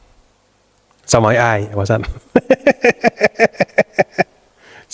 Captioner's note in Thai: เสียงหัวเราะ